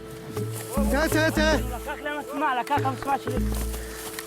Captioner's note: Arabic spoken audio